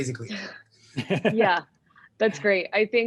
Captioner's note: man laughing